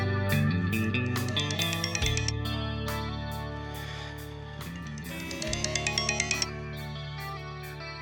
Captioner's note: phone ringing